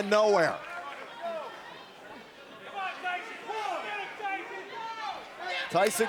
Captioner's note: crowd cheering